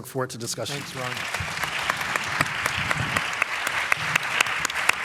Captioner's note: applause